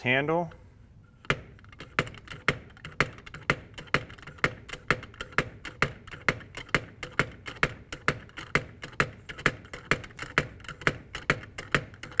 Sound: sound: knocking noise

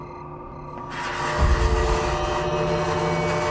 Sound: wood scratches

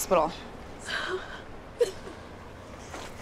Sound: crying

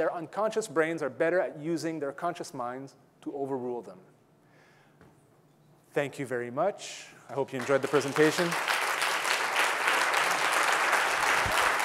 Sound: audience clapping

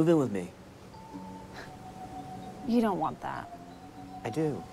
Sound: scoffs

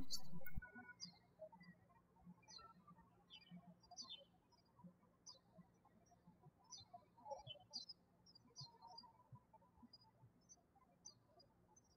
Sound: birds chirping

